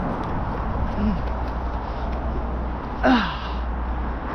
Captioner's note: grunts